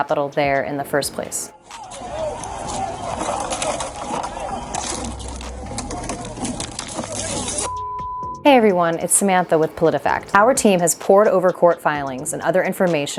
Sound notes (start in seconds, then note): 1.2 rioters yelling; 7.6 beep